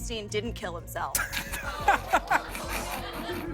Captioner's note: scattered laughter